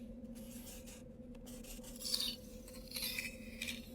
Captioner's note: scratching at the window